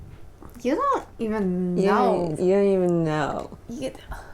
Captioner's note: drunk voice